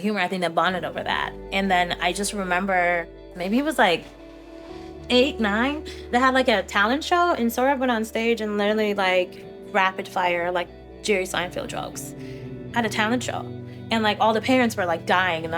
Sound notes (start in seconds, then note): none